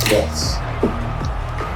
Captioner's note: crowd Noises